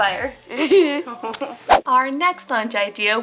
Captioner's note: laughs